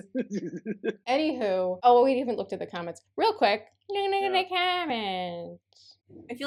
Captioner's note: toothless granny voice